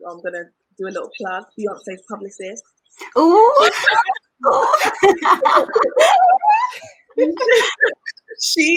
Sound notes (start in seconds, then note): 4.5 all laugh